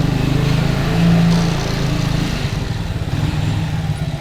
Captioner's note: engine revving